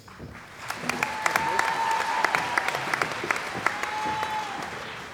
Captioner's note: cheering & Applause